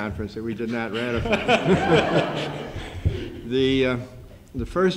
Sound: laughter

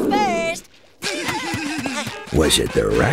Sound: giggling

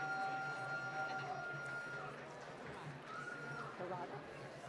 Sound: applause

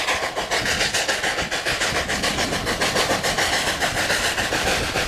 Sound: spirited chugging

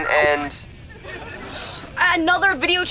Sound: sighing

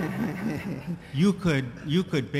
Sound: laughter

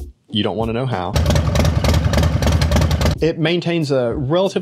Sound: motorcycle engine roaring

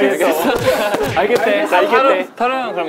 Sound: crying

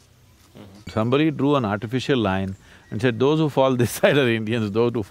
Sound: laughs

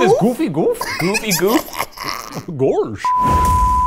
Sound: laughs

